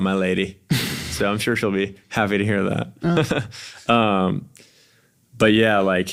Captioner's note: laughs